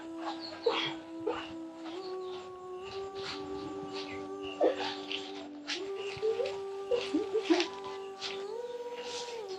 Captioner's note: sobbing continues